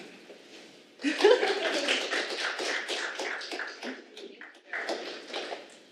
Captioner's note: audience applause